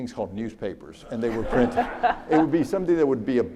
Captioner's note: audience laughs